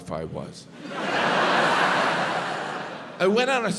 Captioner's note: audience laughs